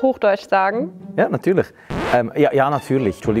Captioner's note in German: Auf Schweizerdeutsch